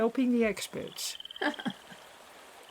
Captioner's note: laughs